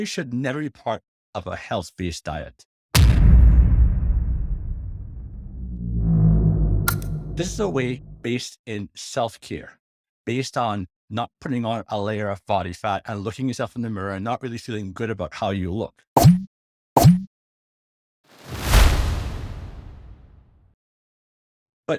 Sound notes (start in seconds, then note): 4.6 air descending; 16.2 logo beeping